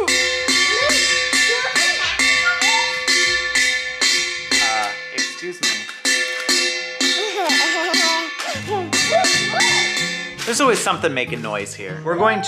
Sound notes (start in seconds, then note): 0.9 loud pot banging; 7.0 boy laughing